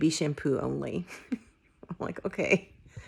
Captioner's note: chuckles